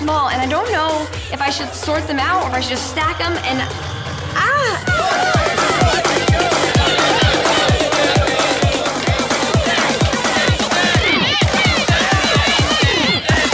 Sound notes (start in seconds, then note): 4.4 contestants yelling; 5.0 upbeat music